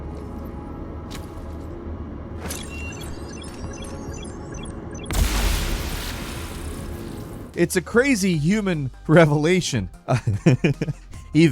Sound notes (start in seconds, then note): 0.3 electronic beeping; 0.3 suspenseful music; 5.0 exploding; 10.1 laughs